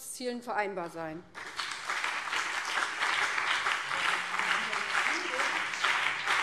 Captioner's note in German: Beifall BÜNDNIS 90/DIE GRÜNEN